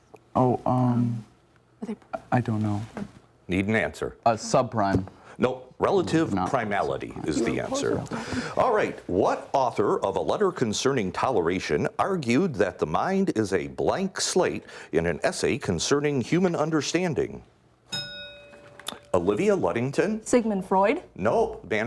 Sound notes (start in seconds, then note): 17.9 bell rings